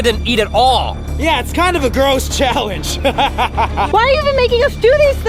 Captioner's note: laughing